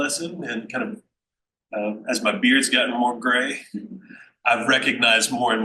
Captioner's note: chuckles